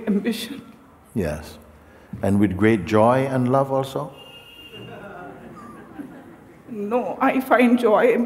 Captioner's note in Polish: śmiech